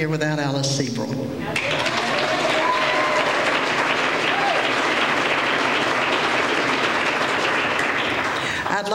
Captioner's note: applause